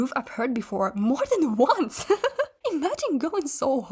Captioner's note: laughs in disbelief